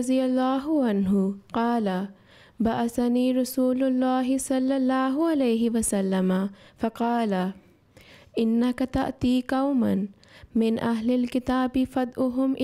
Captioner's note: Arabic